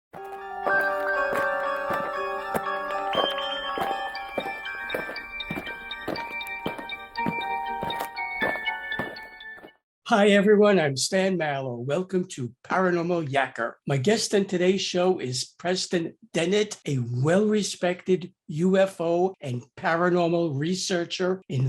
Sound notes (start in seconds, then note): 0.2 eerie music; 5.0 alien footsteps